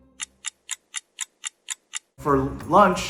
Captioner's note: clock ticking